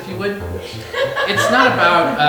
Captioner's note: audience laughing